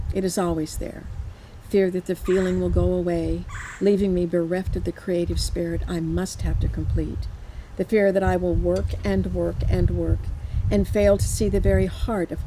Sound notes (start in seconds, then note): none